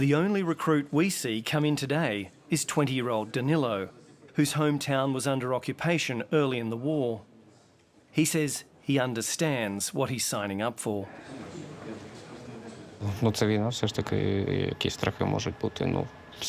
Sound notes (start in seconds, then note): none